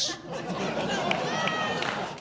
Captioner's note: audience laughs